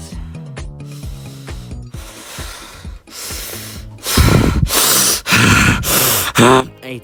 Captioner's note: aggressive simp breathing